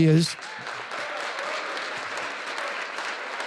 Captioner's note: audience applause